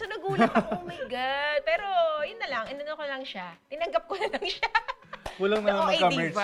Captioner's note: giggles